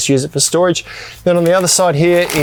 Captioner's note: paper crackling